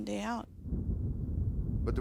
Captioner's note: thunder